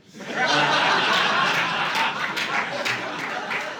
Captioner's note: audience laughing